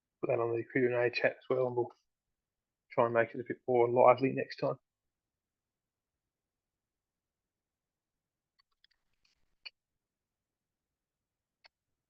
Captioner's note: silence